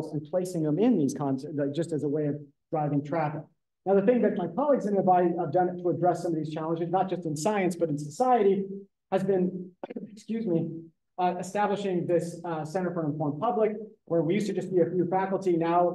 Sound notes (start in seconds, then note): 9.8 coughs